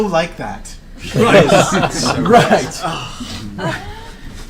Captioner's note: all laugh